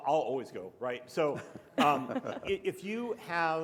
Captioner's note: panelists chuckle